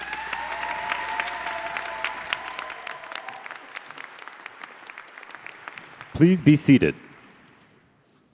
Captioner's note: applause